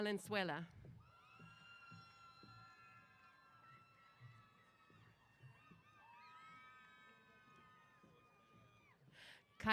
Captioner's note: cheers